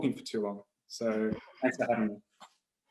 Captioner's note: audio distorts